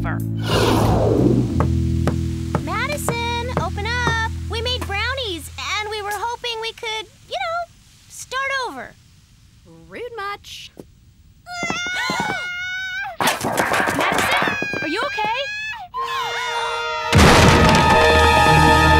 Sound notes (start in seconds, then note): 13.8 Madison screaming; 17.4 screaming continues